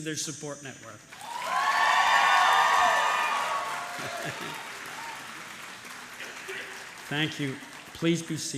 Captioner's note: applause